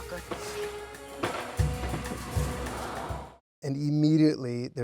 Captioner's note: dramatic music; fireworks exploding